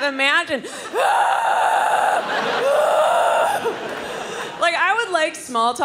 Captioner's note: screaming; crowd laughing